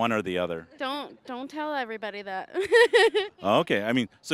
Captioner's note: laughing